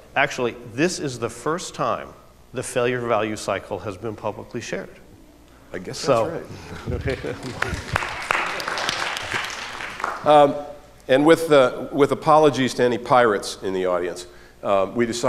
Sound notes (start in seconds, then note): 6.9 applause